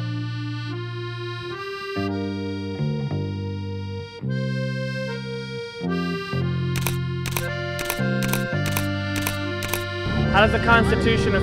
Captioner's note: camera Snapshots